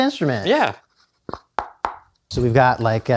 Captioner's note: tapping